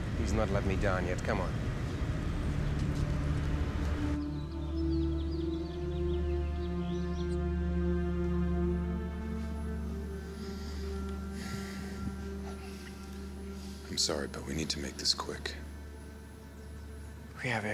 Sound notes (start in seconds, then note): 2.6 birds chirping; 2.6 somber music